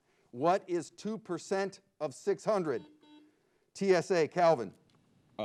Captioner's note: buzzer beeps